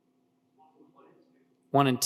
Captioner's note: speaker speaks faintly